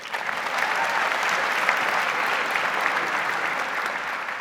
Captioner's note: audience applauds